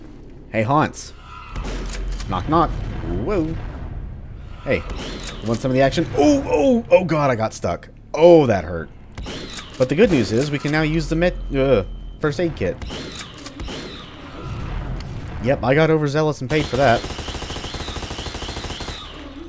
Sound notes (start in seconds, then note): 0.7 BOOM, Shadow Ball humming; 11.4 nervous shudder